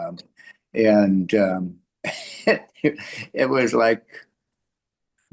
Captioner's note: laughs